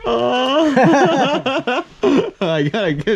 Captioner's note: all laughing